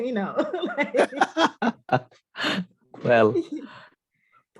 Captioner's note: all laughing